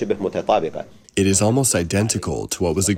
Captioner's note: through translator